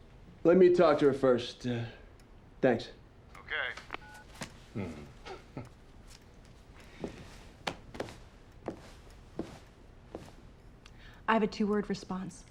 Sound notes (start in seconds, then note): 3.7 line disconnects; 4.7 both chuckle